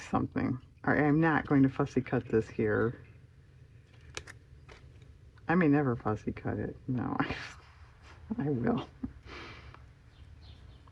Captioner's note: laughs